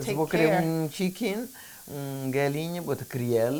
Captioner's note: speaking portuguese